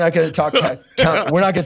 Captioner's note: laughs